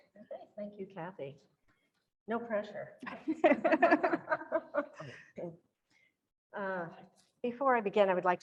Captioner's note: laughs